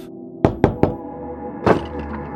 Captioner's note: knocking